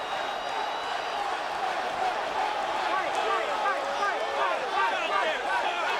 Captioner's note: crowd chants "Fight"